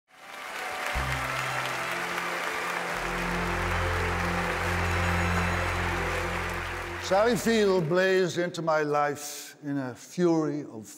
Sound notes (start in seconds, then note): 0.0 audience applauding; 0.1 gentle music